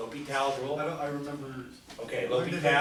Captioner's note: voiceover